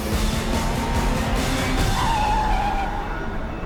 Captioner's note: tires screech